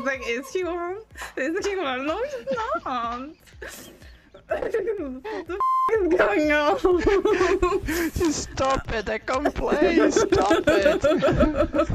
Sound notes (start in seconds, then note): 2.1 laughing; 3.4 everybody laughing; 5.6 laughs; 10.0 everybody laughing